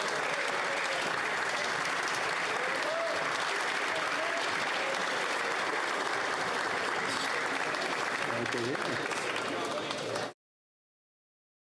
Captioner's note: applause